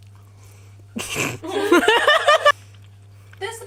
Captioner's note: laughter